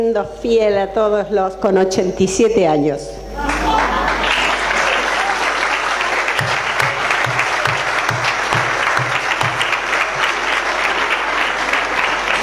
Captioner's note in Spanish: aplausos + risas